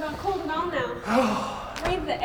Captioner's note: sighs